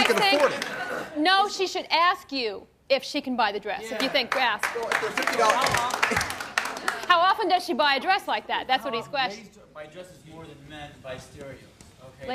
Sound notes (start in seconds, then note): 4.3 scattered applause